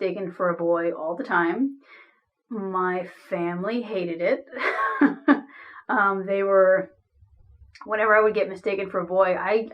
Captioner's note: laughs